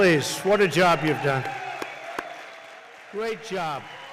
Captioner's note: applause